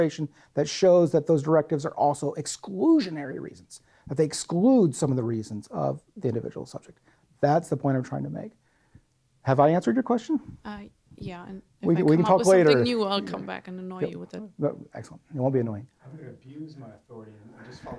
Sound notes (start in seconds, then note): 11.1 voiceover; 16.6 voiceover